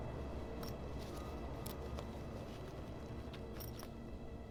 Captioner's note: zipper rustling